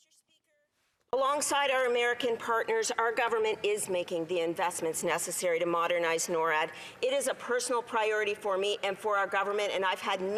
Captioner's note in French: voix de l'interprète